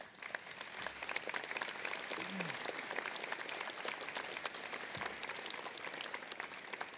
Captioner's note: applause